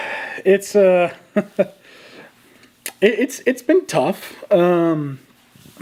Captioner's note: chuckles